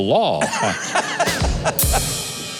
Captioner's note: laughs; drum rimshot